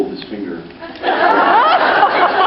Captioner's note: laughs